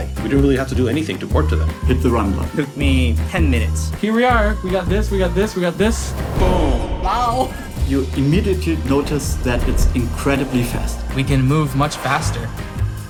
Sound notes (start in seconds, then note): 6.4 echoing